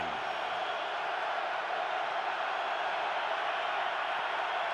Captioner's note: cheers